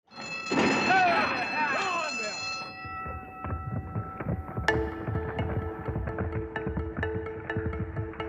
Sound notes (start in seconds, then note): 0.1 bell ringing; 0.6 crowd; 2.5 hooves thumping; 5.0 soft bright music